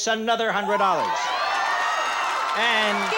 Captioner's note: audience shouting